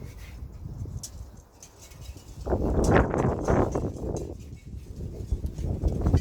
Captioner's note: noise of strong wind